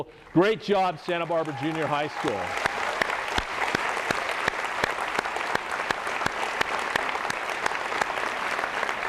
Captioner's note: applause